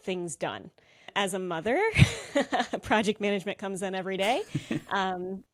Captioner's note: laughs